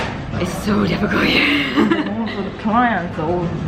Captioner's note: gigling